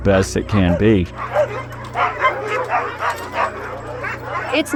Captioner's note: dogs barking